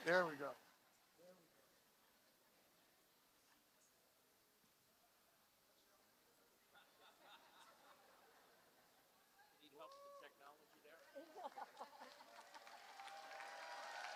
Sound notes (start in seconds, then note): 2.0 laughter; 10.5 applause